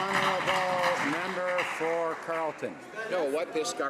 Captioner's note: some Applause